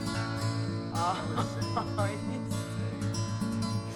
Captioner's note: happy music; laughing